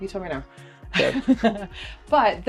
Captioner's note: laughing